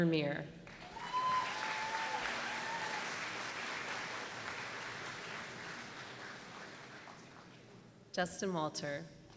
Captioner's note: applause